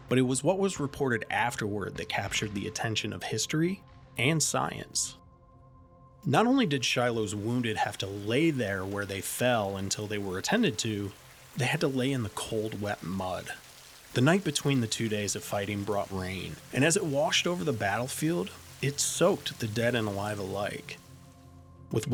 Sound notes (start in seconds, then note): 13.6 rain splattering